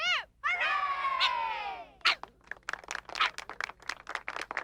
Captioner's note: barks